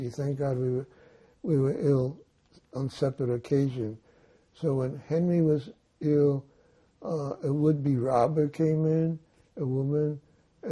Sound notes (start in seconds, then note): none